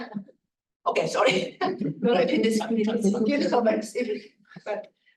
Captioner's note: chuckling